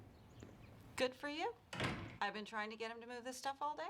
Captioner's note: door shuts